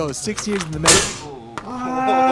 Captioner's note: crash